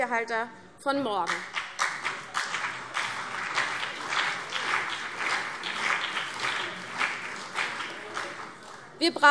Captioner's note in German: Beifall CDU und BÜNDNIS 90/DIE GRÜNEN